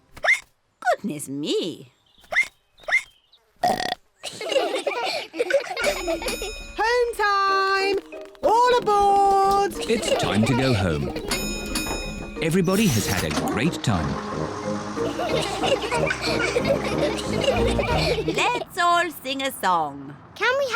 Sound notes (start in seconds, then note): 0.1 hiccups; 2.6 all giggle; 3.6 ducks hiccup and burp; 5.8 bell dings; 15.0 all giggle